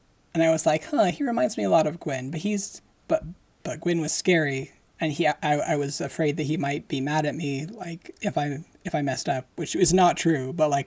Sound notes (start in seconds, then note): none